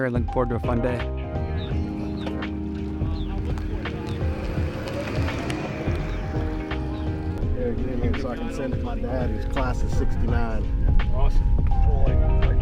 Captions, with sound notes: and looking forward to a fun day. (slow jazz music) (slow jazz music) (golf cart driving) - Here, get in here so I can send it to my dad. He's class of '69. - Awesome.